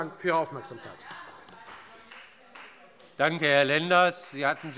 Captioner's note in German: Beifall Freie Demokraten